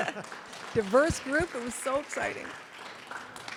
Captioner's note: audience applause